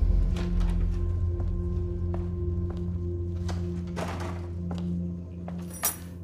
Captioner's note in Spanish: Ruido de las llaves